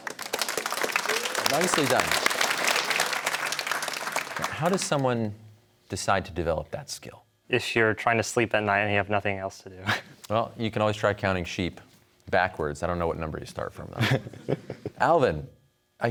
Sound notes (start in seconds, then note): 0.0 applause; 9.7 chuckles; 14.0 chuckles